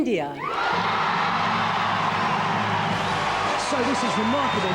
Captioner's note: audience cheering